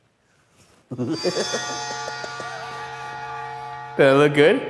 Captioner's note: goofy laughs; dramatic sting